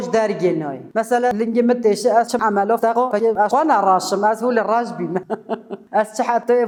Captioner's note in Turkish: gülüyor